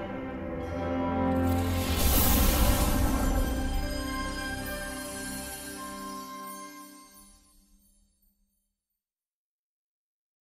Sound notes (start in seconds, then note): 0.8 dramatic sounds